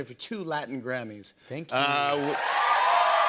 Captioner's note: cheers and applause